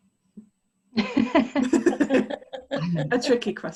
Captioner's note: laughter